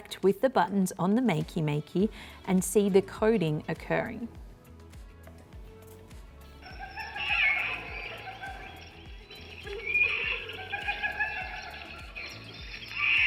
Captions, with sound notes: with the buttons on the Makey Makey and see the coding occurring. (jungle animals squawking)